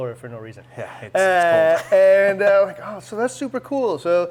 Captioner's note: laughs